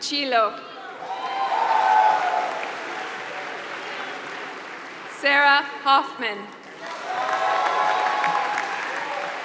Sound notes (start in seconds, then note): 0.0 applause; 6.5 applause